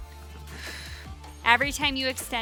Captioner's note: exhaling